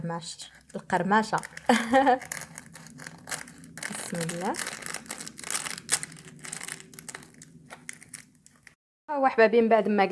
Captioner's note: sound of crunchiness